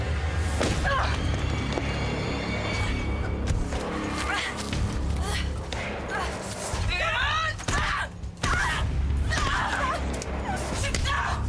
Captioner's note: yelling